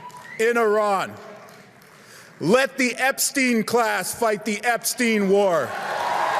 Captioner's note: cheer and applause